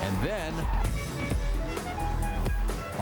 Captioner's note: horn honks